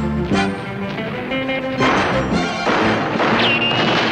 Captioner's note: gunfire blasting